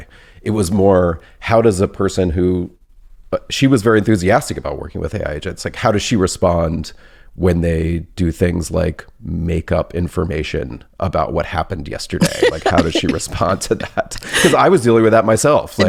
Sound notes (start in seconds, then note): 12.2 laughs